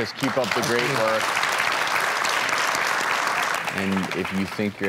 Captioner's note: audience applauding